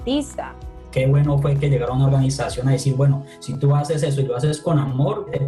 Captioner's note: speaking in foreign language